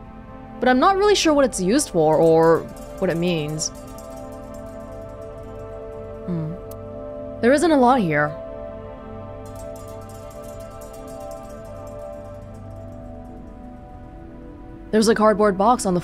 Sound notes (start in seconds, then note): none